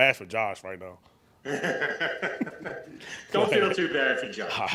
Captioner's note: laughs loudly